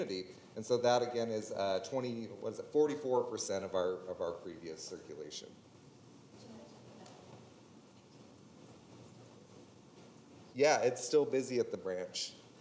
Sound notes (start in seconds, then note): 6.1 attendee speaking quietly